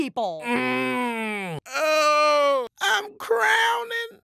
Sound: groaning

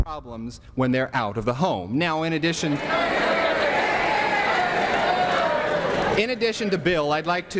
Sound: audience yells here here

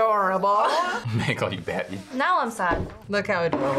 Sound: chuckles

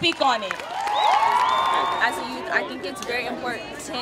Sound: applause

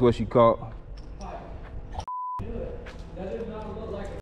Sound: beep

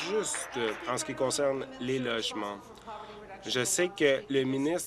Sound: applause

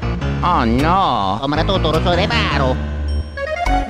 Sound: Luigi Gibberish

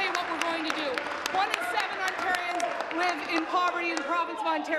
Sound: applause

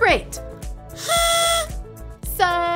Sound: blows horn

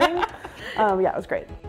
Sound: laughs

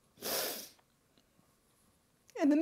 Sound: sniffles

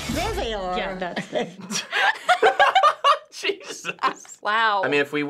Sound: both laugh

